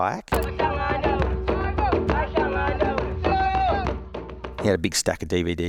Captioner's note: tribal drums; chanting in foreign language